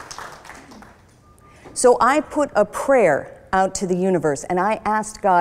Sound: scattered applause

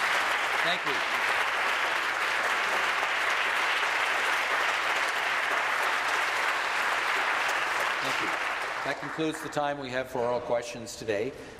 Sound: applause

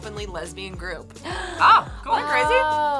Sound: gasps

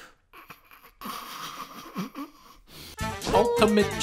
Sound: cracking up

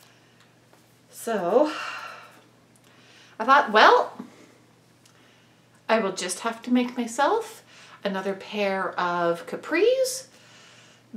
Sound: sigh

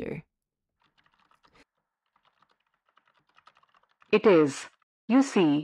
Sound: background SFX: Keyboard typing

